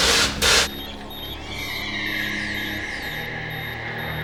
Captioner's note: beeping